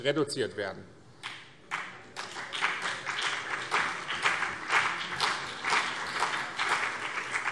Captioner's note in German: Beifall BÜNDNIS 90/DIE GRÜNEN und CDU